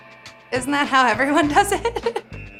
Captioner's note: laughs